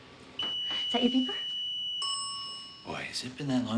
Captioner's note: microwave beeps; microwave dings